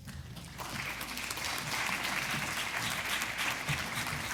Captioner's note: audience applauds